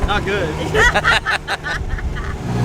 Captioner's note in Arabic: ضحك